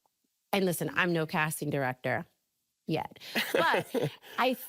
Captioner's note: laughing